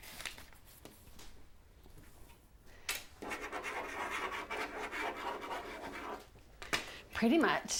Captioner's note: scribbling